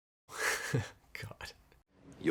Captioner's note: he laughs